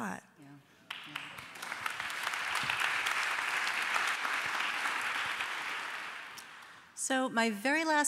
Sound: applause

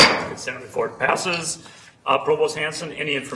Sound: gavel clunking

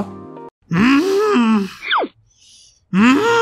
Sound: grunts; grunts even more

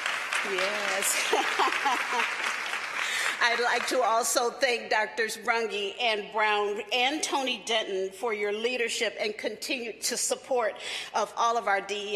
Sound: applause

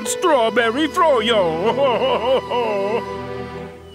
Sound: crying

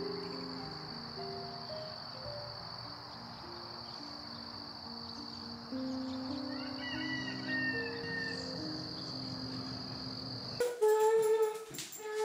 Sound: birds chipping; humming; soft music

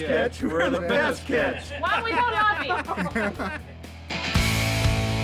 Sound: laughter

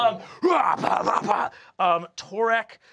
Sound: grunting

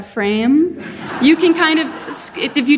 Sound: audience laughing

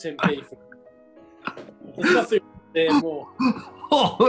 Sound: laughing

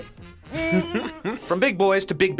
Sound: laughs

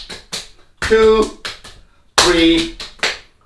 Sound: slapping

